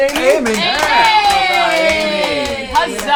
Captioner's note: all cheer